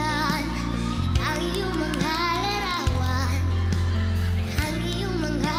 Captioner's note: audience cheering, clapping